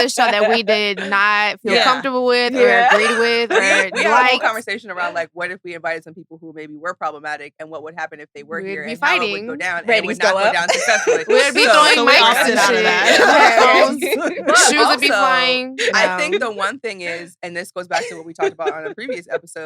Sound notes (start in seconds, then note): 9.9 laughs